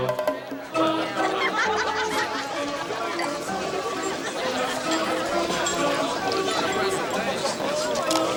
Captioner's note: laughter